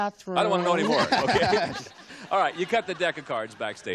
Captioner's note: chuckles